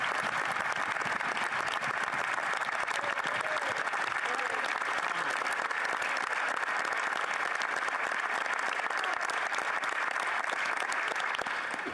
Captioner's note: applause